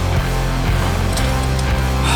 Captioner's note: exhales